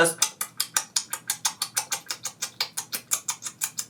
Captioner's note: smacking lips